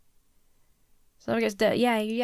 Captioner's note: mumbles